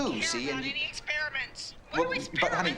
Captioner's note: on phone